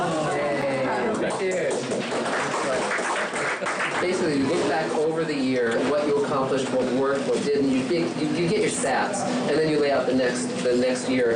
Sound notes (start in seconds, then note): 0.9 group applauding